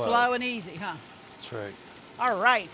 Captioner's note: oil sizzling